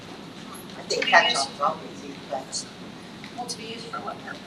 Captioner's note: faintly speaking